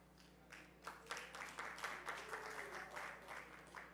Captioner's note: audience clapping